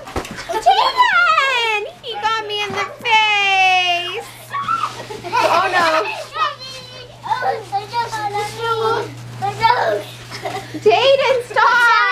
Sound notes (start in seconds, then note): 3.9 laughing